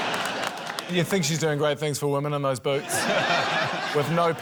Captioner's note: laughter; laughter